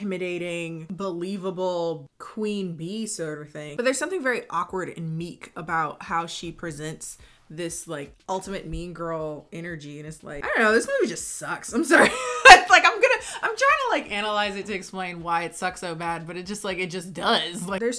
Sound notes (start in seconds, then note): 12.0 laughing